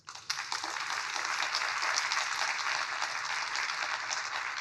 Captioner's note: crowd applauding